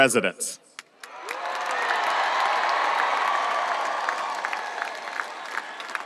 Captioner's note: audience applauding and cheering